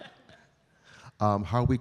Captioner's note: laughs